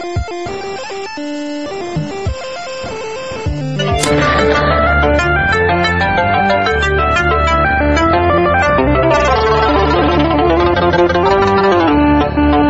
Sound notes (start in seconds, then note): 3.9 COD hitmarker